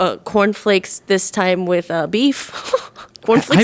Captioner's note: laughing